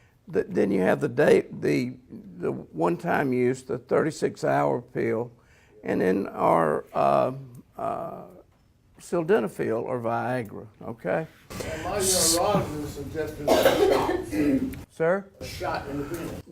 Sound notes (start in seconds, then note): 11.5 audience mumbling, coughing